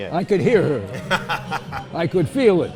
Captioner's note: laughs